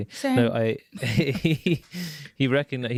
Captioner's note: himesh chuckles